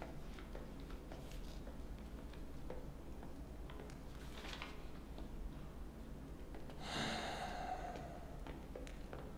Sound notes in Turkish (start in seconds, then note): 6.8 Nefes sesi